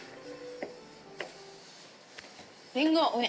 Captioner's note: footsteps